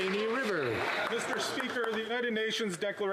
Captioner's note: some Applause